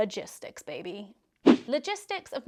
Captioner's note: swishing